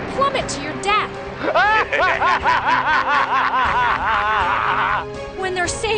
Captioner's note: laughing